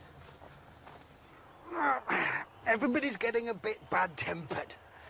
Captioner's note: groans